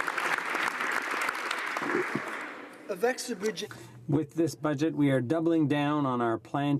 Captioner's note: applause